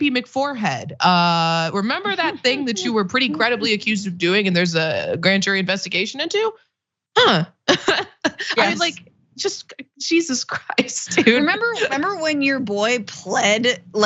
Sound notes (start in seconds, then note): 7.7 laugh